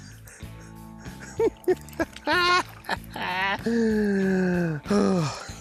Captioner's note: laughs